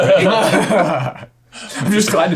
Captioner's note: laughing